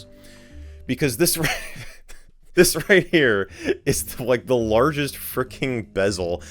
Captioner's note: laughing